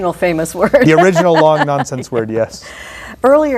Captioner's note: laugh